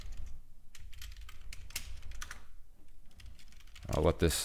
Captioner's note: keys clicking